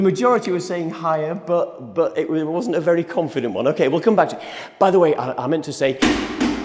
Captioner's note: chair falls down loudly